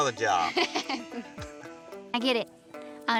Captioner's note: laughs